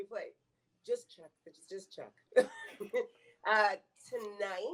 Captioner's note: chuckles